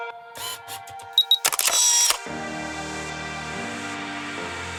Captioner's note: camera clicking; lively music